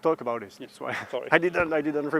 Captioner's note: laughter